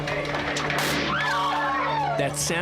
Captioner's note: gunshot; screams